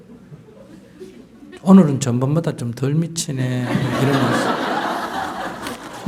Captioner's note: audience Laughter